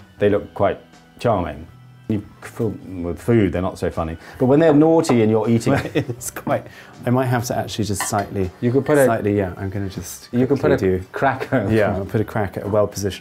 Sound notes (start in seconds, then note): 5.7 laughs